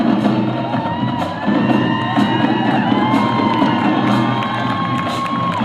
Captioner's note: lively music; audience cheering and applauding